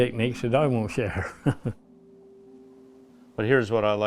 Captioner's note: laughing